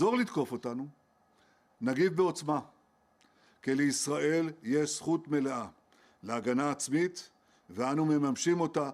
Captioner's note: speaking Alternate Language